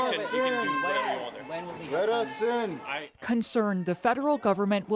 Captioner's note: crowd noise